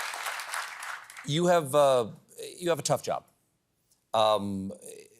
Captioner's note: cheers and applause